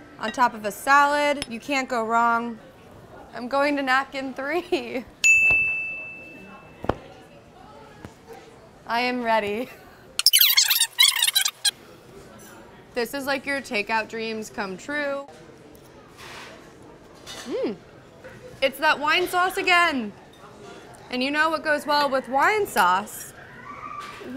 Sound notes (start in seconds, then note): 5.2 bell dings; 10.2 fast forward squeaking